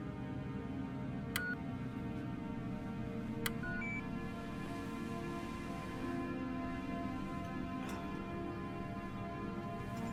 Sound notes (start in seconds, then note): 1.4 buttons beeping; 5.1 gentle music